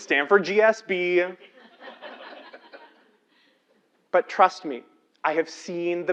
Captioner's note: laugh